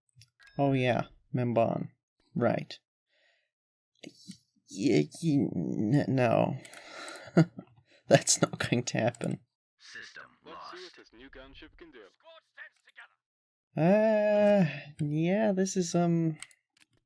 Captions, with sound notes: oh yeah, Ossus, right... ye- ye n- no... *laughs* that's not going to happen uuuuuuhhh, yeah, this is um...